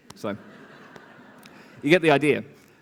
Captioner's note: laughter